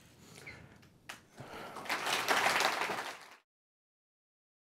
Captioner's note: applause